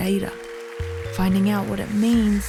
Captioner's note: audience applauds